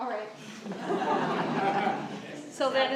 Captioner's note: laughter